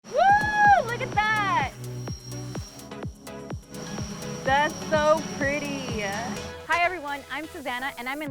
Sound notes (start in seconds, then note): 4.7 drones buzzing; 5.5 upbeat electronic music